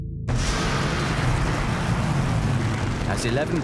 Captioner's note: planes whooshing